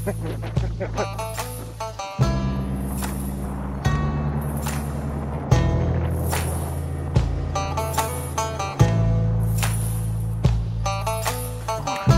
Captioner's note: laughter; boat engine sound